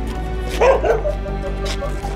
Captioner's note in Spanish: Ladridos